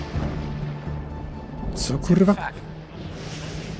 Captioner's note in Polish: rośnie klang ôd burze